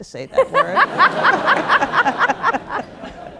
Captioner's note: laugh; laughter